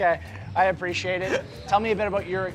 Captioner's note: laughter